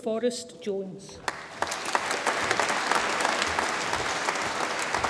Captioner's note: audience applauds